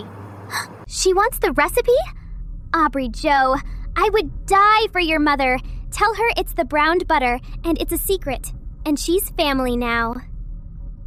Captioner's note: gasp